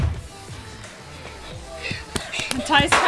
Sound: laughing

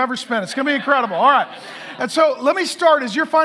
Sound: congregation laughing

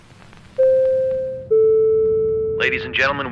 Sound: ding-dong announcement

